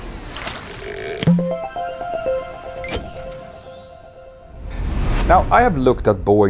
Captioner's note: playful chime